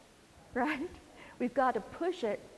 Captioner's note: laugh